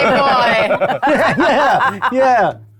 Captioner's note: group laughing